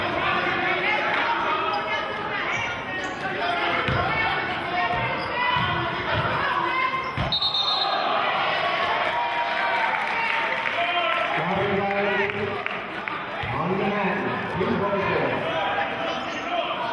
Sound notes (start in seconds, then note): 5.2 yelling; 7.2 whistling; 10.2 cheering